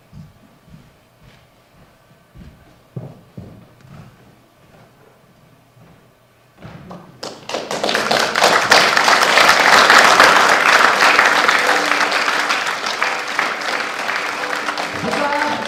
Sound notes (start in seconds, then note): 7.2 applause